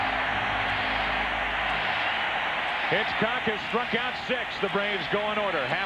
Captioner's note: cheering